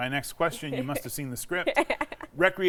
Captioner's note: laughs